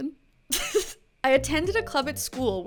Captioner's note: laughs